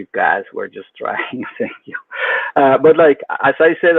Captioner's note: laughs